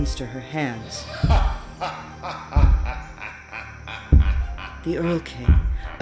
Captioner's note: ominous laughter and heavy footsteps